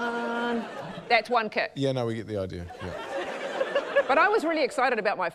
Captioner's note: laughter